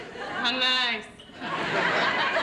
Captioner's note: laughter